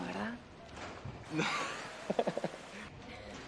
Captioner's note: Tertawa